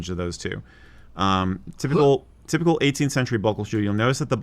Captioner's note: gags theatrically